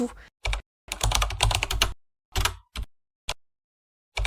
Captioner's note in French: bruit de clavier